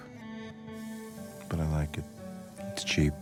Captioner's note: can spraying